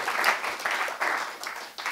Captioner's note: applause